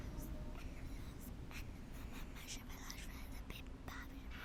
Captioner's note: child whispering